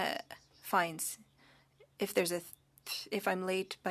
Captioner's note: speaking French